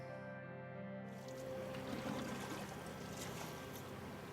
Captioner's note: water splashing